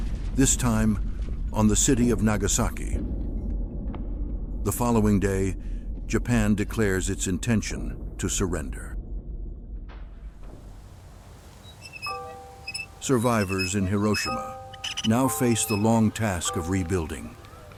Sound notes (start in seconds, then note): 11.6 wrench squeaking, mournful music